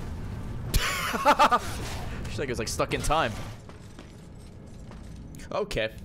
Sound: laughs

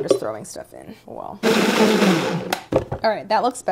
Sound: blender loudly rumbling

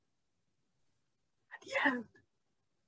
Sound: whispers

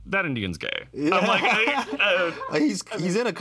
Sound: both laugh

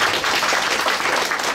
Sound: clapping

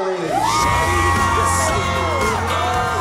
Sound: cheers and applause

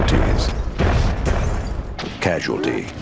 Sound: explosions

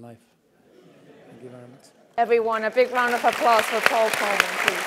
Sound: laugh

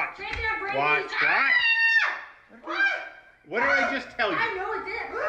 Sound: screams

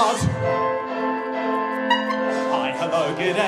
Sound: singing; horn fails; singing

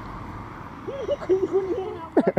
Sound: laughs

